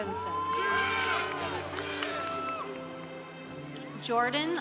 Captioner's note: congregation applauding